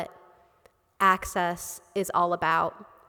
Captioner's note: none